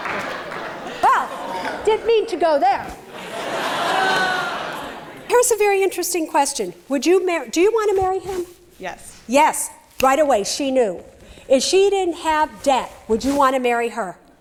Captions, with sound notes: WELL, DIDN'T MEAN TO GO THERE! [laughter] HERE'S A VERY INTERESTING QUESTION, DO YOU WANT TO MARRY HIM? YES. YES, RIGHT AWAY SHE KNEW. IF SHE DIDN'T HAVE DEBT, WOULD YOU WANT TO MARRY HER?